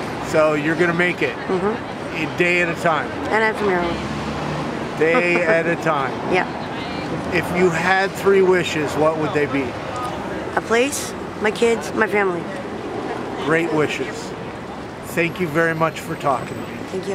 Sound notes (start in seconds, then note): 5.0 laughs